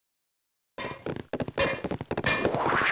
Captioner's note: hammer hits a metal surface; steps; hammer hits a metal surface; steps; teleportation rustle